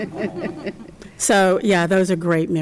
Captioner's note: chuckles